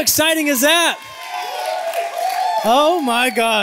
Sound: cheering

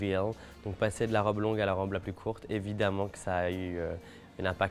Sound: speaking French

